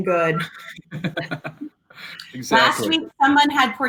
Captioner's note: laughs